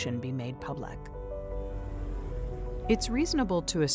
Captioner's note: transition whooshes